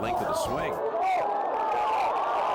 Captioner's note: <i> crowd cheering</i>